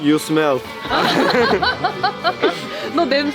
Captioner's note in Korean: 일동 웃음